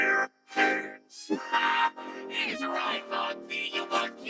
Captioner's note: laughs